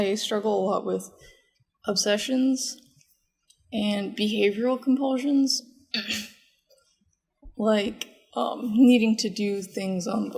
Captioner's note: clears throat